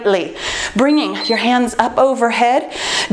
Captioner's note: timer beeps